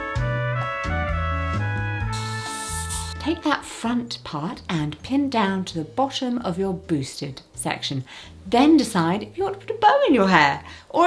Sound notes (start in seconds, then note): 2.2 hairspray hissing